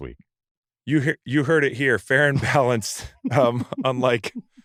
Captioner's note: laughs